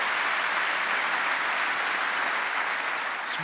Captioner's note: applause